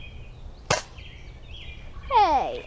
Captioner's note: toy dart shoots